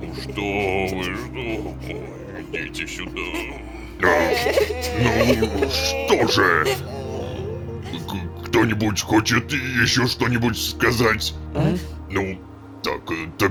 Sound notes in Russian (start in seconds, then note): 1.5 плачут; 3.7 плачут; 4.3 Плач детей